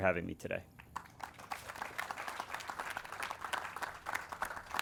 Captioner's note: audience claps